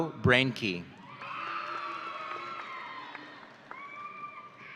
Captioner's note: audience cheering